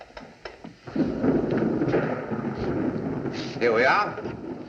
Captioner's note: thunderclap